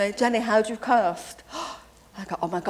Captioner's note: gasps